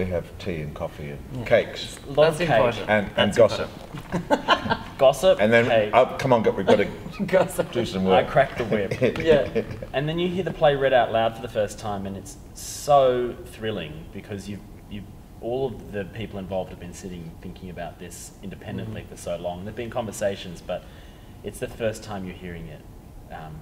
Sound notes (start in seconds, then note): 4.0 laughter